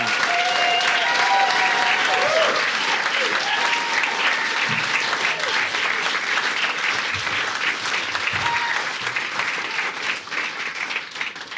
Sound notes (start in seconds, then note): 0.3 audience applauding; 3.5 audience cheering